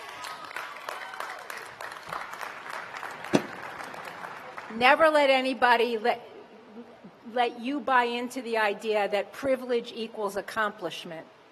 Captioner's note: cheers and applause